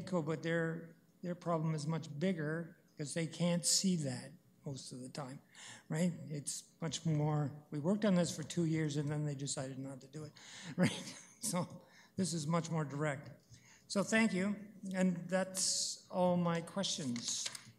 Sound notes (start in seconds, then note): 10.7 chuckles